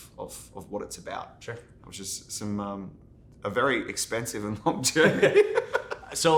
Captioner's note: laughs